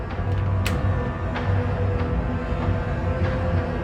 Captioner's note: lock clicks